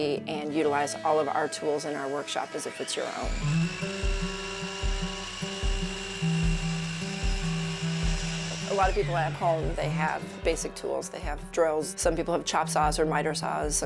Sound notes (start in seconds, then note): 3.7 miter saw whirring; 4.8 lighthearted music